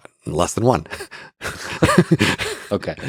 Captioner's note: Lex and Robin chuckle